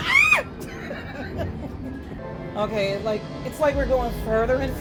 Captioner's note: screams